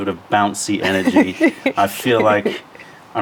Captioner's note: laughter